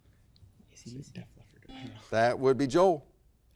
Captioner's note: players indistinctly chatting